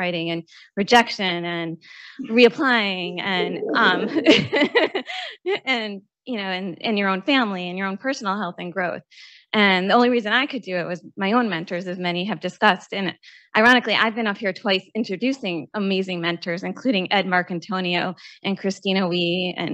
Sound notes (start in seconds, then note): 3.2 laughs